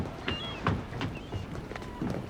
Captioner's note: seagulls calling